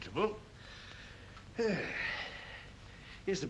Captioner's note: rough sighs